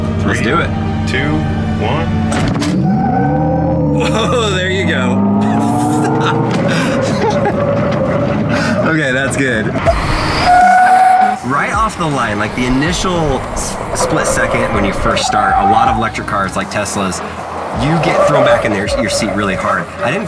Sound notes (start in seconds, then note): 5.4 laughs; 10.4 tires screeching